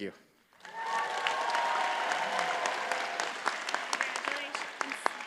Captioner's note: audience cheers and applauds